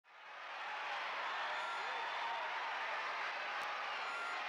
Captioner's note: crowd cheering